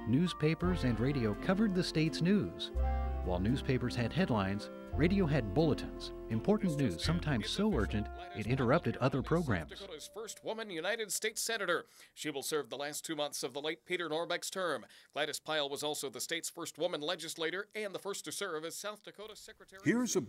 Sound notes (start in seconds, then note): 10.7 radio Announcer